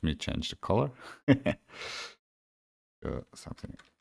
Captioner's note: laughs